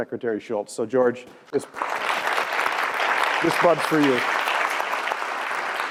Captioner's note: applause